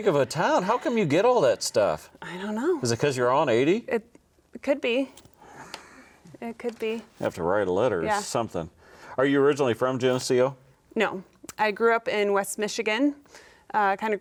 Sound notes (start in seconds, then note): none